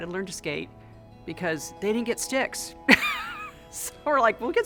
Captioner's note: laughs